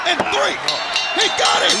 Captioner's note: bell ringing